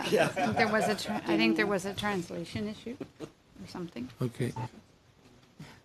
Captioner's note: laughter